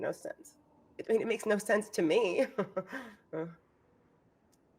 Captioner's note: chuckles